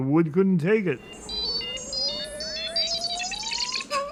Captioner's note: beeping